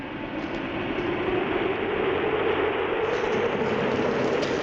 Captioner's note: wind howling